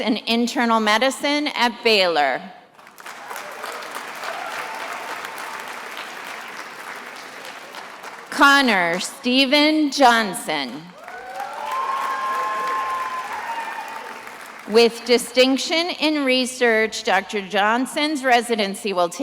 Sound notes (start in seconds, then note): 2.7 attendees applauding; 10.9 attendees applauding and cheering